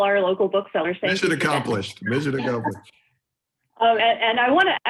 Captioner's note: laughter